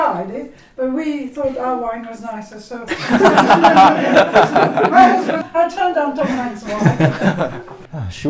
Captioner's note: laughing